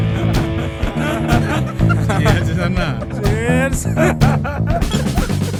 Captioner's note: cheering and loud laugh